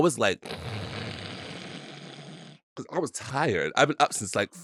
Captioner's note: snoring